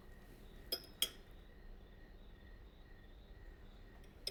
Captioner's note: silverware clinking